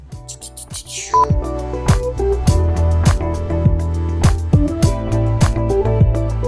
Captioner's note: beep